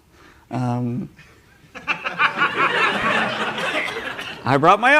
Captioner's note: laughter